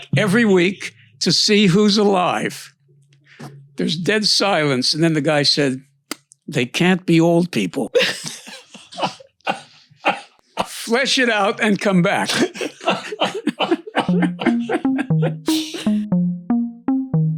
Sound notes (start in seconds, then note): 7.9 laughs; 12.1 laughs; 14.0 soft upbeat music